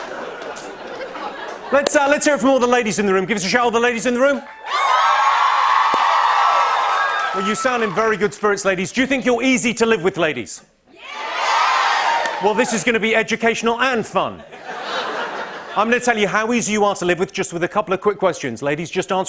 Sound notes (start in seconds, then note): 0.0 laughter and applause; 4.3 cheers and applause; 10.9 women cheer; 14.4 laughter